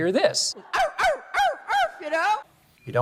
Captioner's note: hillary barking